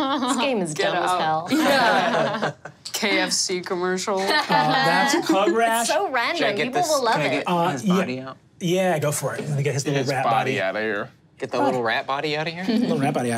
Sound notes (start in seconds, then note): 4.2 players laughing